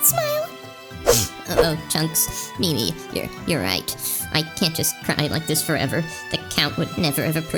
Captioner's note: sniffs